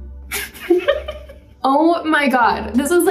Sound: Madelyn laughs

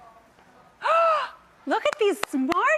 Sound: gasps

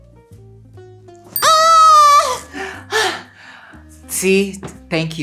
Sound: bell rings; Bretman screams

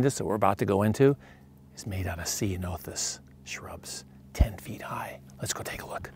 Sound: whispering

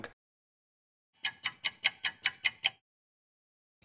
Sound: sound of a ticking clock

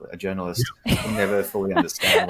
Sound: laughing

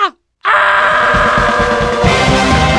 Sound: the Screams Of The Damned

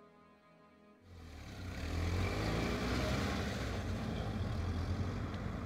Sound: bus pulling off

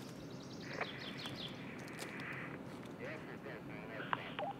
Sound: a walkie talkie dispatch from below

